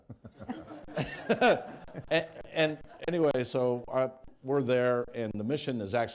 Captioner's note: laughter